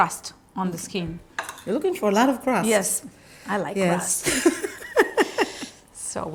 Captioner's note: laughs